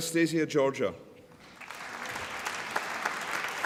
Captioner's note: applause